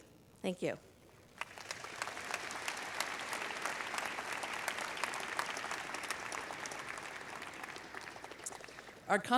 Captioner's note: applause